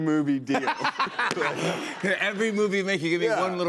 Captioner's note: laughter